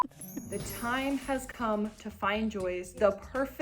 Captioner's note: chimes